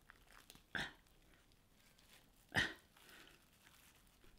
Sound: grunts

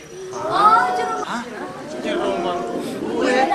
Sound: people mumbling

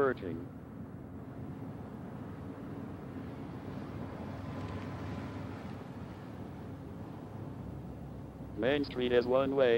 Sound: road noise

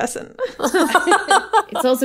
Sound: laughing

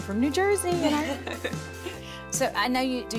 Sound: laughs

